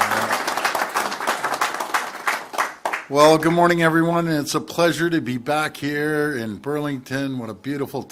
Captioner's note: applause